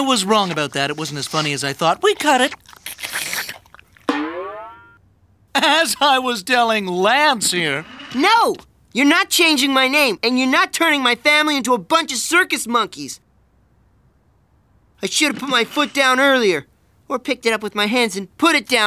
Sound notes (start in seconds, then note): 3.9 slurping stops